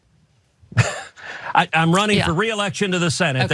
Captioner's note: laugh